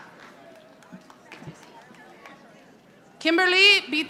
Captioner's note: audience applauding